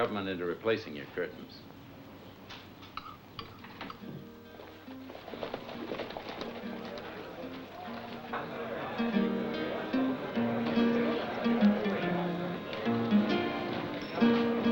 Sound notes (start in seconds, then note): 3.9 guitar playing; 8.4 chattering